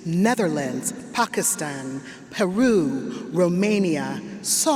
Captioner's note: none